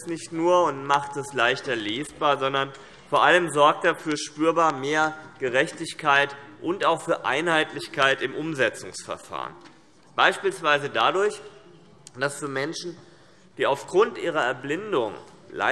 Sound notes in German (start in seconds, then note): none